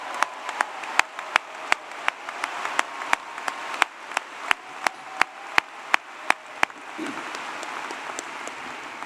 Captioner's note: applause